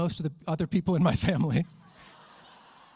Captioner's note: laughter